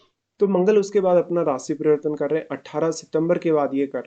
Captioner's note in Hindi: नाक से की जाने वाली आवाज़